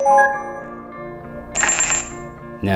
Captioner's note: beep sound